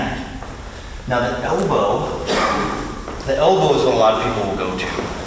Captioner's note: coughs